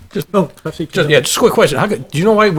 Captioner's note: voice muffled